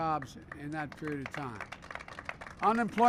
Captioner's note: applause